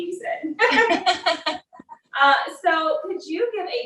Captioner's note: laughs